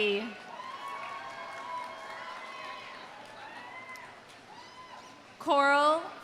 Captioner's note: audience cheering; audience applauding